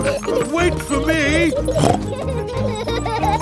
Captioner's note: snorts